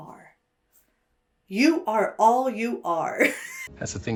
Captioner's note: laughs